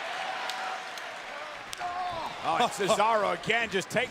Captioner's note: applause